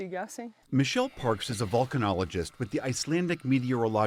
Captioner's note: voice-over